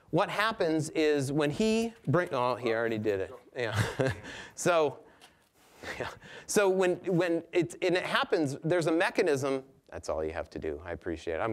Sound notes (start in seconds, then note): 3.6 chuckling